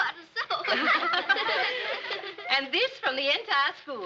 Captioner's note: all laughing